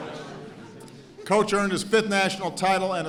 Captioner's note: laughter